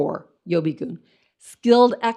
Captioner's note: speaks in foreign language